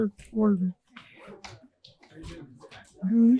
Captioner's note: audience chattering